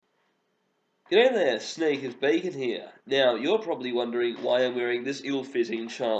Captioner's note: nasally